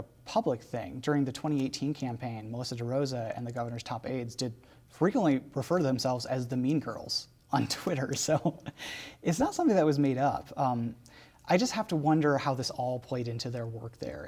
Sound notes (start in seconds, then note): 7.6 laughter